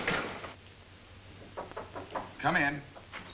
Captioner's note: knocking at door